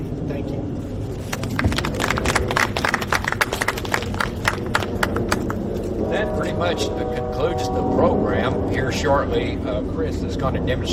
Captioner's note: audience clapping